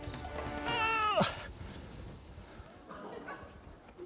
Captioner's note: laughter; strains